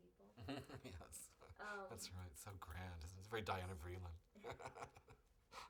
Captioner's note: laughs unintelligible; laughs